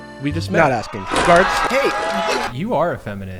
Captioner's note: crowd yelling